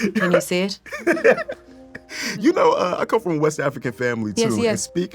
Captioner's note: laughs